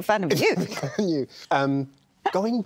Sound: laughs

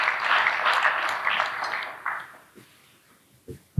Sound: applause

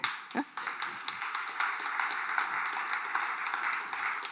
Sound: applause

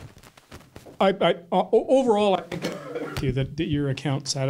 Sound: voiceover

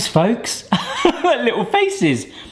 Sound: laughing

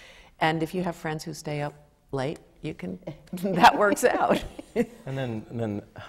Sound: laughter

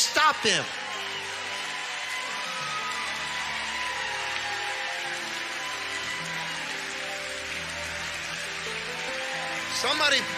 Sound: congregation cheering and clapping

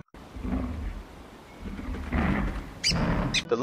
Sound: hounds Barking in the Distance

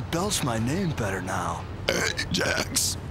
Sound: belches

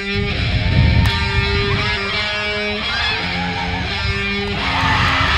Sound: rock music; cheering

